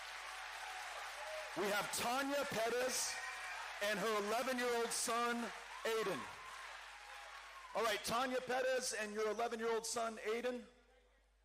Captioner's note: cheering